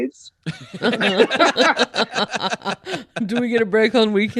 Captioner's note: all laughing